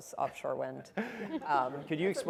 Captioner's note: all chuckle